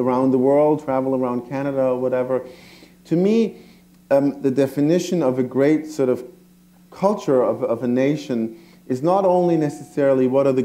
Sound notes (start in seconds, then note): none